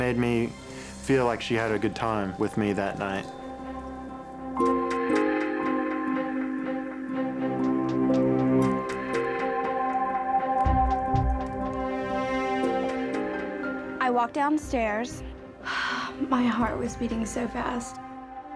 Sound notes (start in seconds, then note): 4.5 brooding choral music; 15.6 huffs